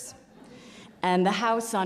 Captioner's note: audience laughs